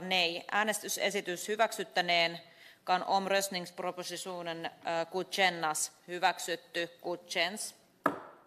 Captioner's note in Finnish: nuijan kopautus